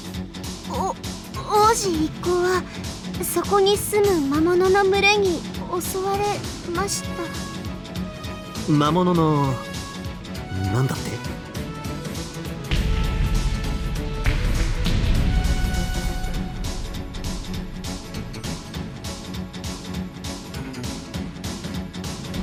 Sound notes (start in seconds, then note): 12.7 rumble; 12.7 rumble rumble RUMBLE